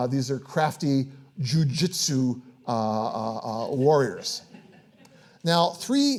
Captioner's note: audience laughing